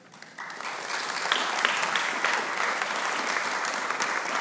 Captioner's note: audience applauding